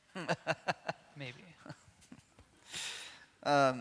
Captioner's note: laughs